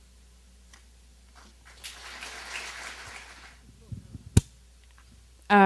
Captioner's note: applause